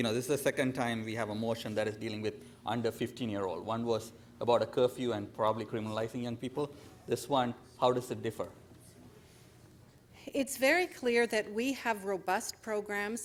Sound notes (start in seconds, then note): 5.5 speaker off mic